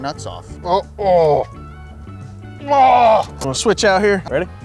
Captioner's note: grunting